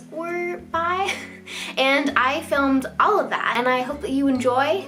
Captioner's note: chuckles